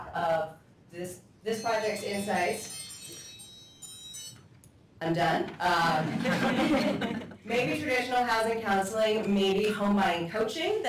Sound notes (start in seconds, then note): 5.9 laughter